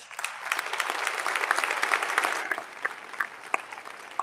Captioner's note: audience applauding